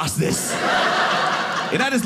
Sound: audience laughing

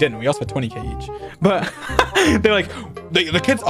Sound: laughs

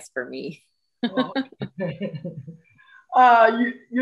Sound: chuckles

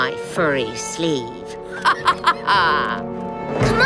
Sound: laughing

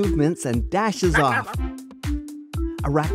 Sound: Banna-chipmunk noises

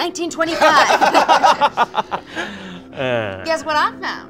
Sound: all laugh

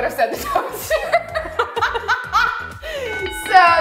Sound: everyone laughs

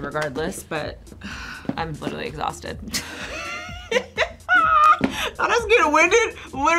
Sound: laughs

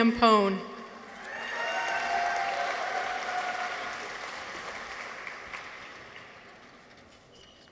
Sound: people cheer; audience applauds

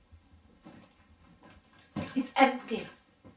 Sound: rustling sound

